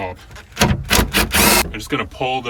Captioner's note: drill torquing